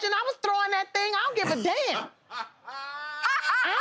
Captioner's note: laughter; laughs